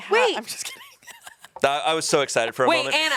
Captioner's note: laughs